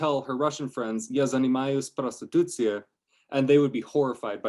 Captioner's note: speaking russian